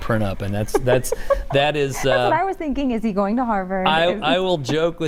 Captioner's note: laughter